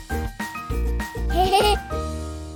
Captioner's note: laughter